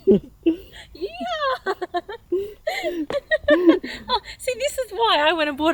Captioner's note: laughing